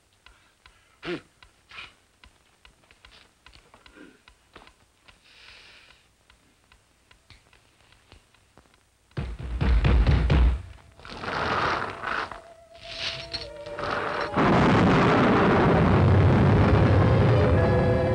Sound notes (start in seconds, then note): 9.3 door banging; 11.6 eerie music